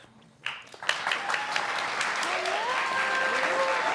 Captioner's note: audience clapping